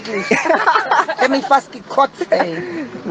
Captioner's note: laughter